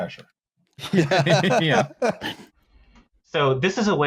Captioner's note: laughter